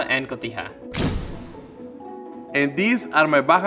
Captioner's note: camera snaps